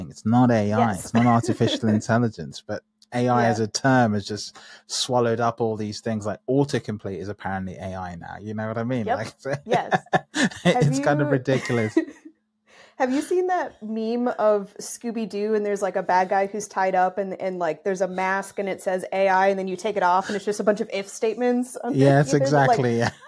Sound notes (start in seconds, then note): 10.2 laughing